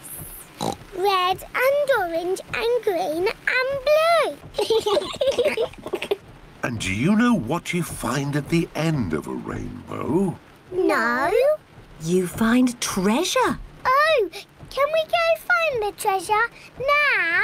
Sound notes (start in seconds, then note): 4.6 both laugh